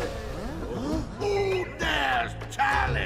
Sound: people gasping

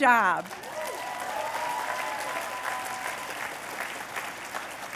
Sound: cheers and applause

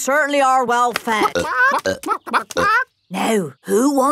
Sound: clucking

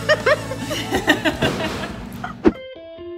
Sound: laughing; soft piano music

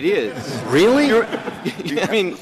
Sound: laughter

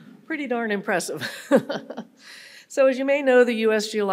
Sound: laughing

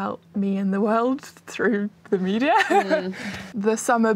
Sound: laughs

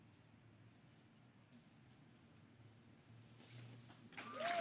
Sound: cheering & applause

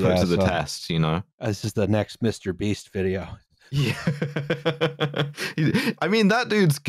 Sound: laughs

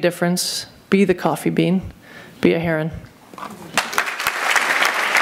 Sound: applause

